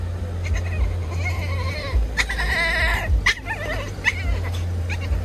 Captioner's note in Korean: 퐁이의 특이한 울음소리